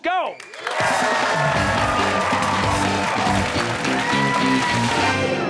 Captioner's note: cheers and applause